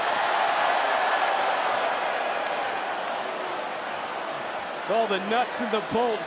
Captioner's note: crowd cheers